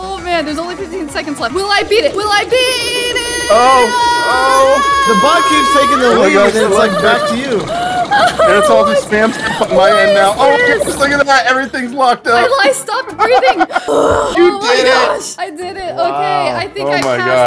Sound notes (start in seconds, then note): 12.4 laughs